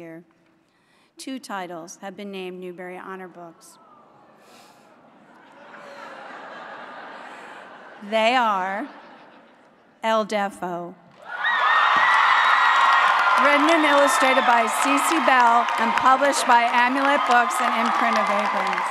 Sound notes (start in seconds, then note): 9.7 cheering; 10.3 applause